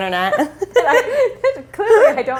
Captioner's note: laughter